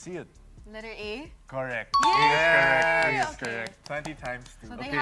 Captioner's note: cheering